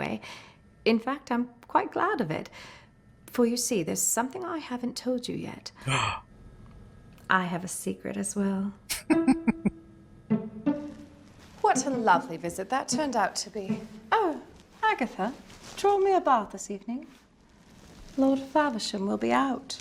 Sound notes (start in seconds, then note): 6.0 gasp; 8.9 chuckling